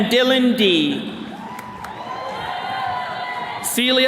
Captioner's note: attendees cheering